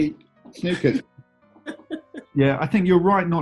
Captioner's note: chuckling